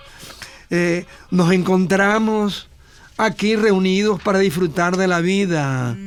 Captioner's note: sighs